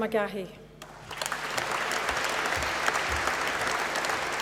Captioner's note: applause